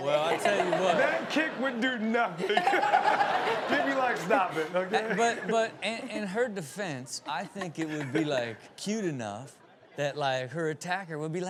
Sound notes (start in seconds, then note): 2.8 Chanel and audience laughing